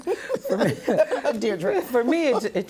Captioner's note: laughter